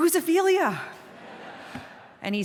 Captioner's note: laughter